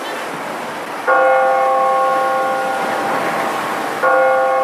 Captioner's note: bell ringing